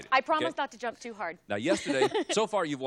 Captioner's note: chuckles